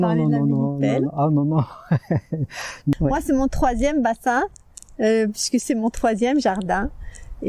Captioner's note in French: rires